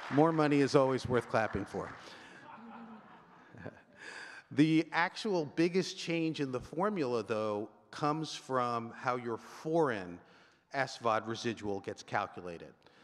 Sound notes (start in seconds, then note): 2.4 chuckling; 2.4 audience member laughing